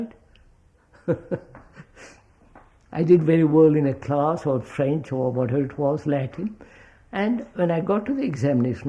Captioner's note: laughs